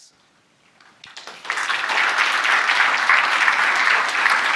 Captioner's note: audience clapping